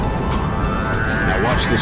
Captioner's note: engine powering up